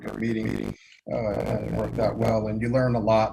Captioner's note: line trembling